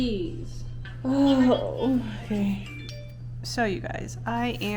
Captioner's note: sighs